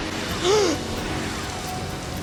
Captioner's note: gasp